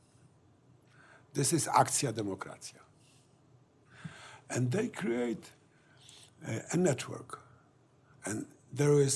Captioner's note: non-english speech